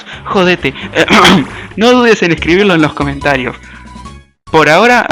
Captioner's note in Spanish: Ejem